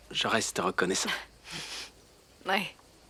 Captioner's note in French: Becca glousse